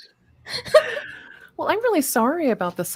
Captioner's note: laughs